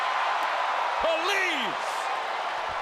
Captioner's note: crowd cheering